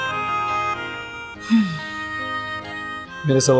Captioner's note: romantic music playing; sighing